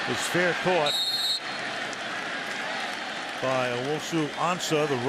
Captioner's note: whistles